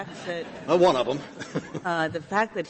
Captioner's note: laughter